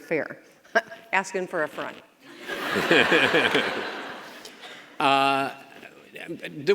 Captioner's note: audience and Chris laugh